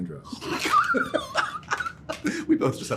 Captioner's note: laughter